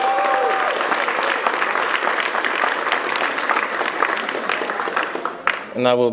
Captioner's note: cheers and applause